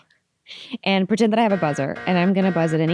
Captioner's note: buzzing sounds